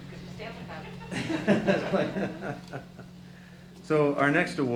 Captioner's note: laughter